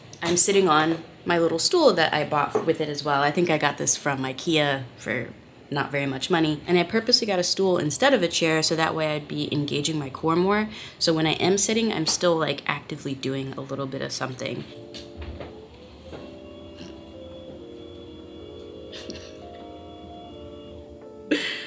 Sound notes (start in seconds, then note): 14.4 upbeat music; 14.6 desk buzzes; 18.8 laughs